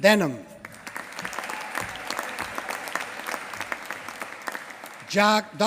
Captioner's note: applause